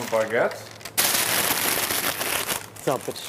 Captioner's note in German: Lautes Knistern des Papiers